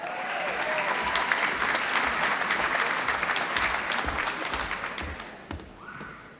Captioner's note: applause